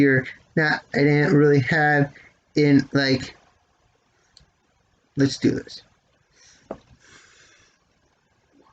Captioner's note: sighs